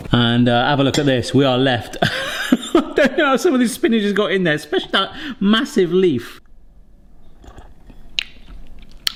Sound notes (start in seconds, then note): 2.0 laughs